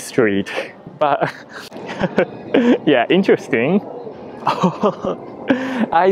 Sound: laughs

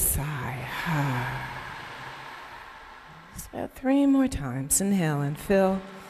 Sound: sighs

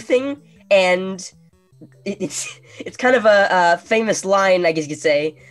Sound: chuckling

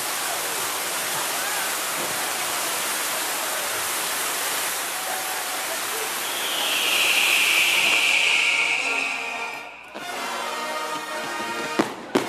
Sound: applause

